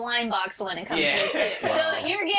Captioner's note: chuckling